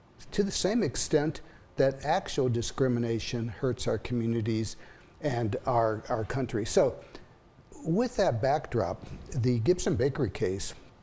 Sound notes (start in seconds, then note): none